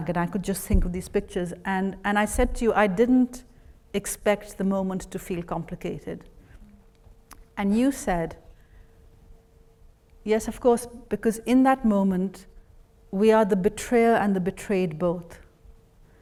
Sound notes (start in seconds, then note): none